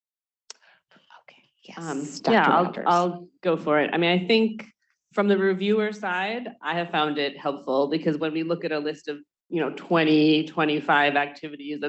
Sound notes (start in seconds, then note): 0.6 whispering